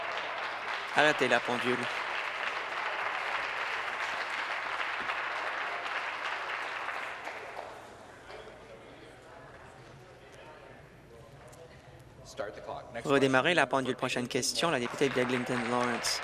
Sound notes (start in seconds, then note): 0.0 applause